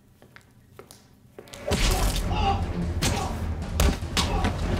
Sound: thudding

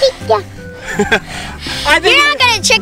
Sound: laughter

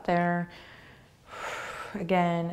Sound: exhaling

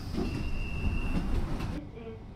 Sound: doors opening

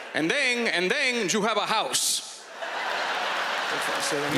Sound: laughter and applause

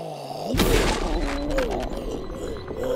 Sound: gargles marbles; gross bodily noises

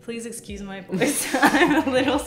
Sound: both laughing

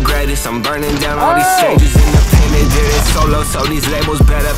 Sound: yells

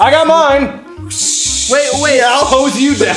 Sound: gushing water noises

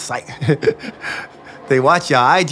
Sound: laughs

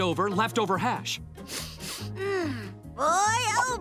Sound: sniffs

